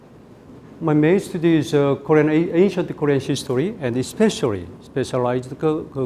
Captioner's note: speaking in Korean